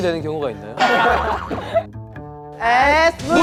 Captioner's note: ha ha ha ha ha